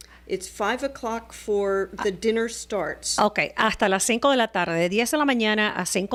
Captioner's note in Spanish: Hablando ingl\s